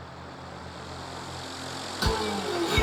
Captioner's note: engine purring